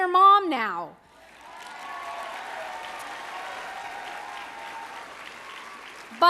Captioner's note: applause